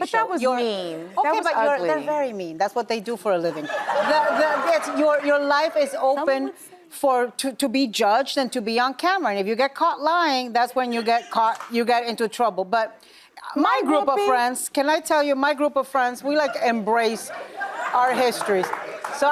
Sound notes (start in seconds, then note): 3.6 audience laughs